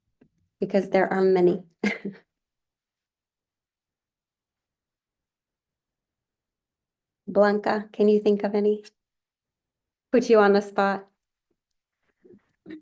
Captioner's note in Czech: Smích